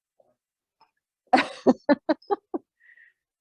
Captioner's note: laughs